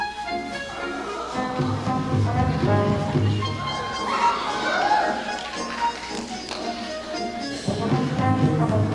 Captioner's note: audience laughter